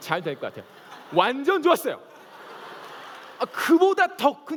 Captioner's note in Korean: 웃음